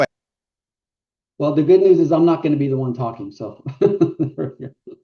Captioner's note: laughs